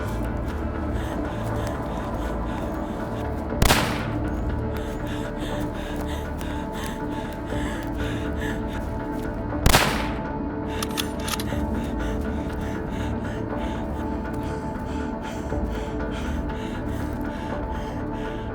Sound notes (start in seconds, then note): 0.2 suspenseful music; 3.6 gun firing